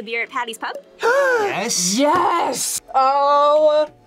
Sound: gasps

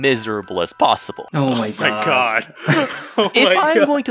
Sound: laugh

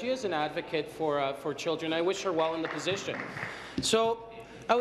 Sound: applause

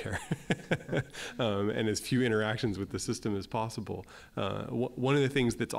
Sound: laugh

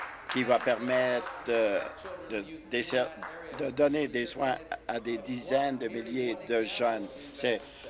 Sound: applause

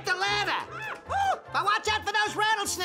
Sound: Elmer screaming

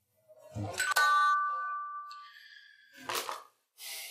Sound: doorbell

